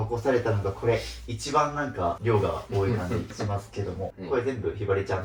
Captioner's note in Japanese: 鼻息